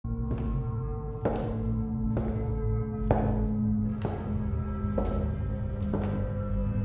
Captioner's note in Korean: 섬뜩한 구두 소리